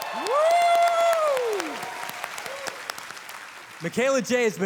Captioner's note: audience cheering